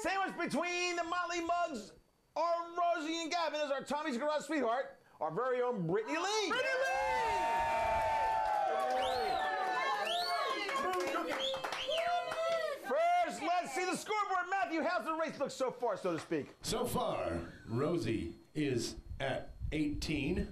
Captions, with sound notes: SANDWICHED BETWEEN THE MOTLEY MUGS OF ROSIE AND GAVIN IS OUR TOMMY'S GARAGE SWEETHEART, OUR VERY OWN BRITTANY LEIGH. [AUDIENCE CHEERING] - FIRST, LET'S SEE THE SCOREBOARD. MATTHEW, HOW'S THE RACE LOOK SO FAR, SO TO SPEAK? - SO FAR, ROSIE IS AT 18.